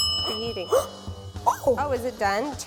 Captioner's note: timer dings; gasps